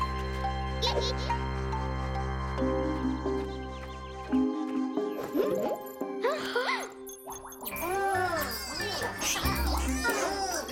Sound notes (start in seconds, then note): 0.2 giggles; 5.4 all gasp; 7.4 Bongolalas chattering